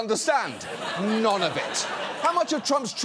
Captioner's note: audience laughs